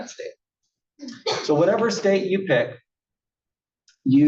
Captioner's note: cough